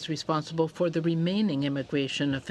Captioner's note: speaking French